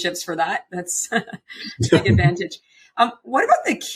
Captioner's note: laughs